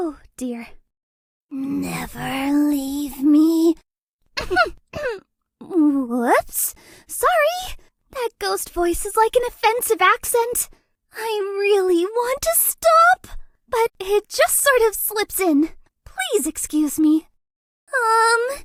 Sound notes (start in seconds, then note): 3.0 ahem